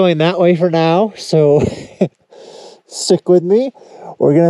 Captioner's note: chuckles